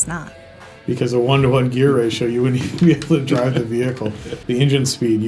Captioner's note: chuckles